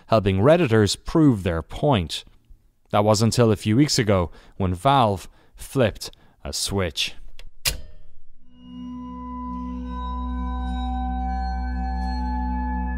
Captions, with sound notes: helping redditors prove their point. That was until a few weeks ago, when Valve flipped a switch. (switch clicking sound) (ominous music)